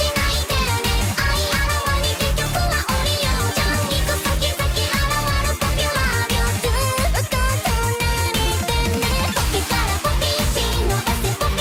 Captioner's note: speaking in foreign language